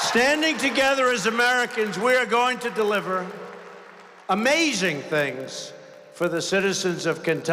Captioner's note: applause